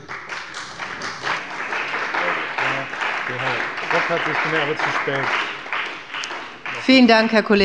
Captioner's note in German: Beifall bei dem BÜNDNIS 90/DIE GRÜNEN und der CDU